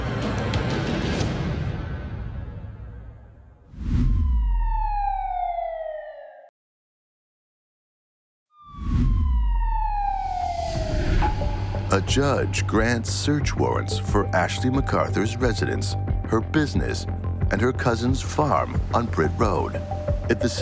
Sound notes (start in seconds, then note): 0.0 tense music; 3.9 colored bars whooshing; 4.2 siren wailing; 8.6 siren wailing; 8.7 colored bars whooshing